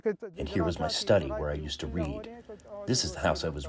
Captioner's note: through translator